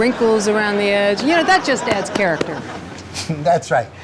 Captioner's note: audience laughing